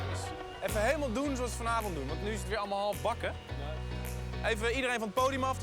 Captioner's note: speaking in foreign language